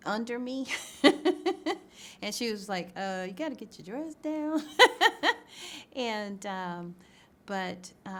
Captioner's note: laughs